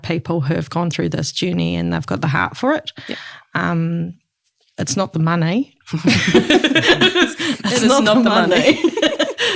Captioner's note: all laugh